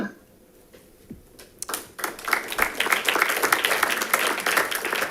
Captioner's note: audience applauding